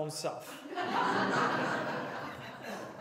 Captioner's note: laughter